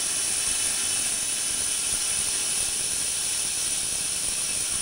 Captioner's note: saw whirring